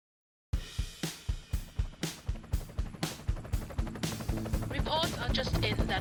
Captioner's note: helicopter Noises